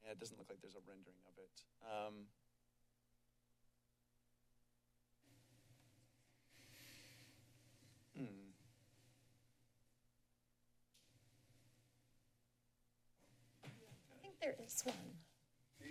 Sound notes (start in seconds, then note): 2.7 silence